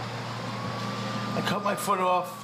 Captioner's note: siren wailing